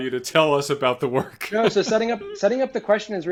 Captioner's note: laughing